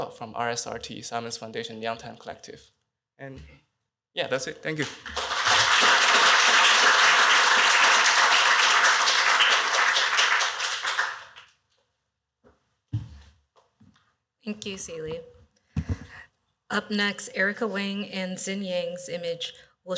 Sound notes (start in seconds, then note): 4.7 applause